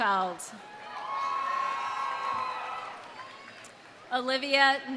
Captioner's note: audience cheering; audience applauding